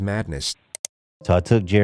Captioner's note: click